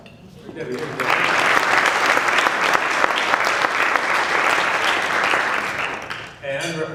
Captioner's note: applause drowns out speaker